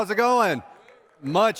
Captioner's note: cheers